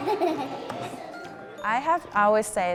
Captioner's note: children laughing